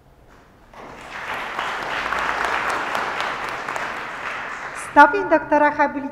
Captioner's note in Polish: oklaski